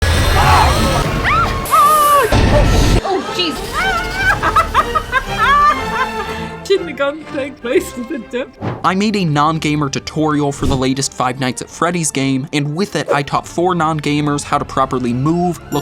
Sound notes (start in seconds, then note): 1.6 screams